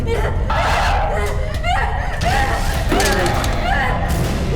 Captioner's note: Abby shouts; dramatic music